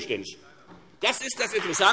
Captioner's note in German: Beifall Freie Demokraten